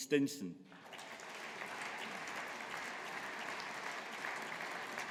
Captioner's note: audience applauding